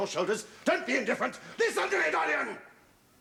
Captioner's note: yelling